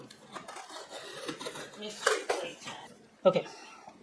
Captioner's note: sound of box getting cut into